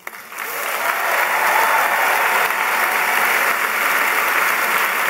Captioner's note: applause